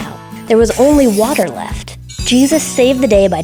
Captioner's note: magical chimes